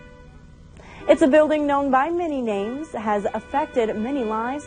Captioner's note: voiceover